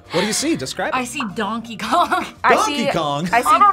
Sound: laughs

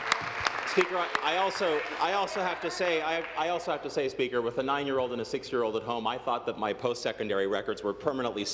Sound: applause

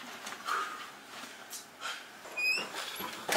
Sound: door creak

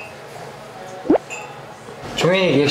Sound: nervous gulp

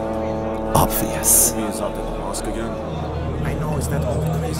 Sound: murmuring voices

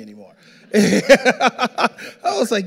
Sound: all laughing

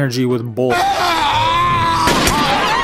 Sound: Man screaming from Death Note; gunshot

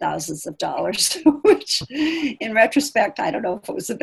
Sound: laughing

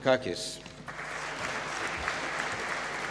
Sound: applause

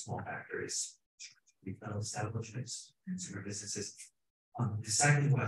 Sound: speaking faintly

